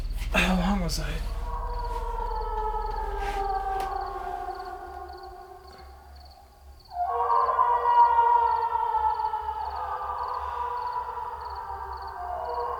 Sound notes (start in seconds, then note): 1.3 ghostly woman screaming in distance